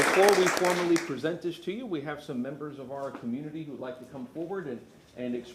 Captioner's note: applause